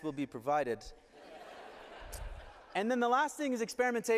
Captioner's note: laughter